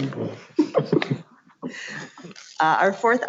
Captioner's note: laughing